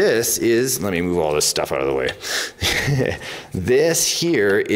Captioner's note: laughs